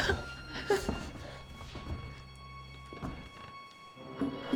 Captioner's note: suspenseful music; Claire whimpering